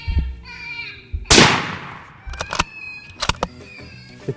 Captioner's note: gunshot